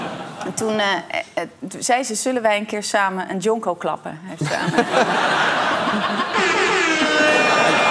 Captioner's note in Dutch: gelach; gelach